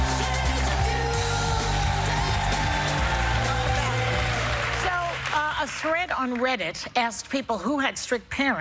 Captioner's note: cheers and applause